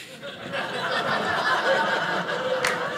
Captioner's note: audience laughing